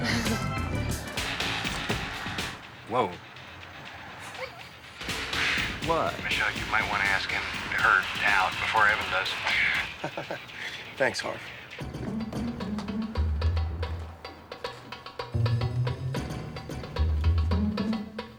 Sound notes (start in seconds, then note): 0.0 chuckles; 4.3 Leek laughing; 9.1 laughs